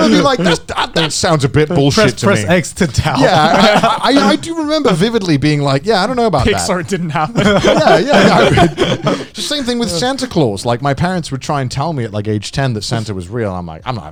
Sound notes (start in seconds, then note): 5.1 chuckling